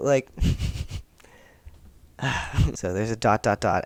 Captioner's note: sigh